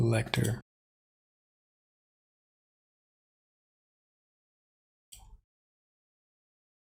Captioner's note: blank Audio